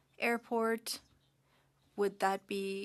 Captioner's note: speaking French